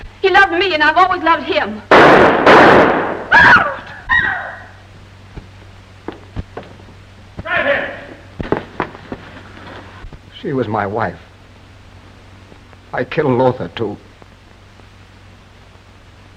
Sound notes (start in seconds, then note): 1.9 two gunshots; 3.3 screams of horror